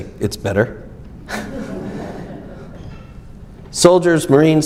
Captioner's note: audience laughs